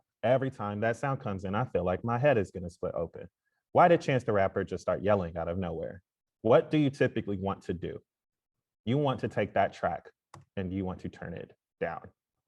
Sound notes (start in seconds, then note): none